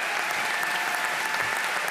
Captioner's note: applause